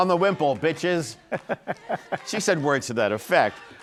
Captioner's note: laughs